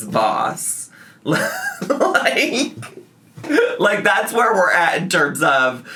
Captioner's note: laughs